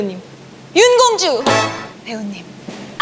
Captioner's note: dramatic sound effect